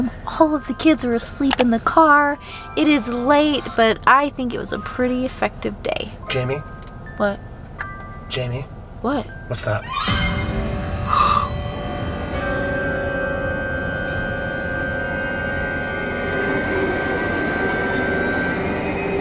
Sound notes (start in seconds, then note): 11.1 gasping; 12.9 creepy suspenseful music